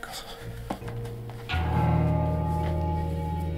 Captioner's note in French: Comptoise qui sonne